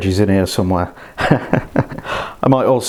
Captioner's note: laughs